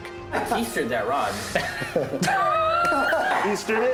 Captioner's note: laughter